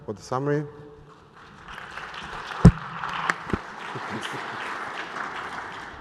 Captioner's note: applause